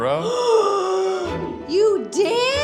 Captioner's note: gasps